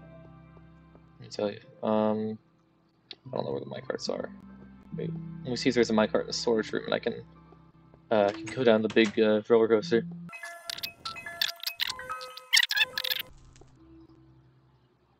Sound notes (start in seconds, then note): 3.1 clicks tongue